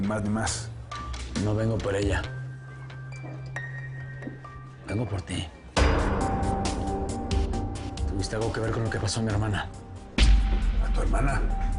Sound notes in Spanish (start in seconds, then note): none